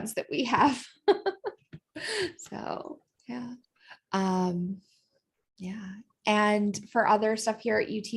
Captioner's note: laughter